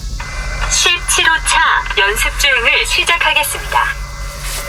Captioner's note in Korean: 기계음